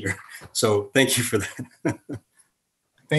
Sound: laughs

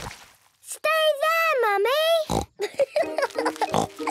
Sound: laughing

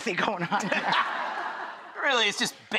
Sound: audience laughing

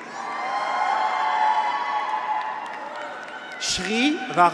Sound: graduates cheer

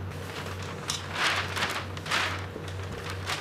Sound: rustling

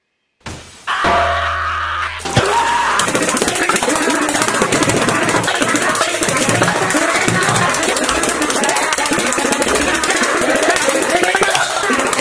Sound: HowToBasic Screaming

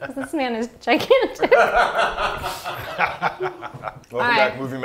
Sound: laughing

